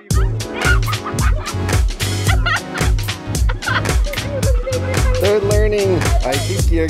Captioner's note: upbeat music; kids laughing